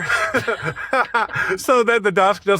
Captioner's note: laugh